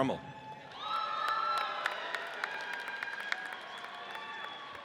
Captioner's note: audience cheers